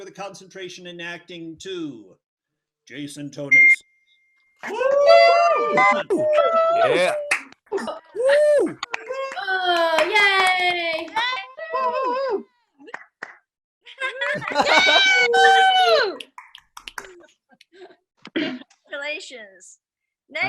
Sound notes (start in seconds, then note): 5.0 attendees applauding; 5.0 attendees cheering